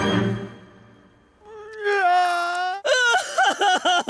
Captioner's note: sobbing